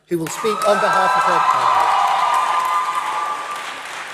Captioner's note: cheering, Applause